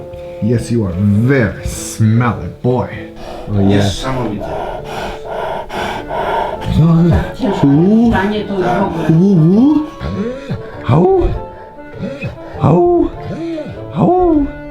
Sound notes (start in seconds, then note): 4.3 heavy breathing; 10.9 howling with big smelly dog